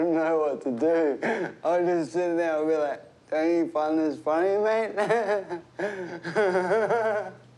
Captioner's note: chuckles; laughs